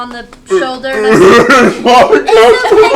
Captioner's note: tearfully